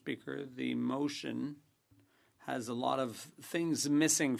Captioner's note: speaking French